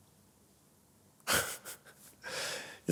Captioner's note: laughs